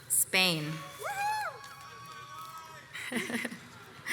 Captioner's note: crowd cheers